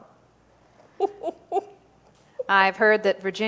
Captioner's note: Clementina laughs